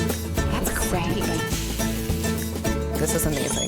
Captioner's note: frying pan sizzles